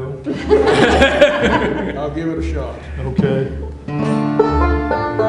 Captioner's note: laughter